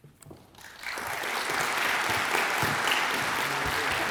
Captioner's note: audience applauds